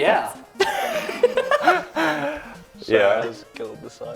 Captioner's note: laughter